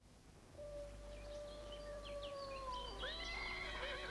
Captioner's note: birds chirping